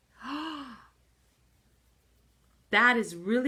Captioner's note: gasps